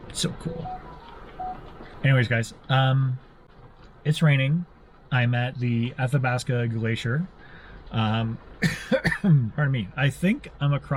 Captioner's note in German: hustet